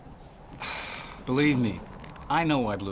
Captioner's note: sighing